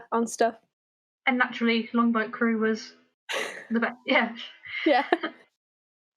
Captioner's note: laughter